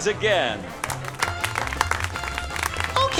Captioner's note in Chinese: 分散的掌声